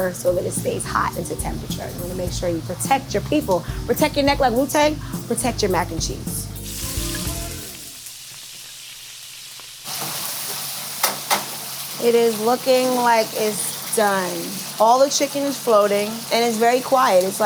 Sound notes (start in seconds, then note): 6.8 oil sizzling